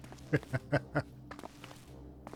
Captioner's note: laughter